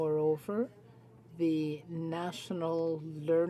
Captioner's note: speaking French